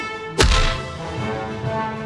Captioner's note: whack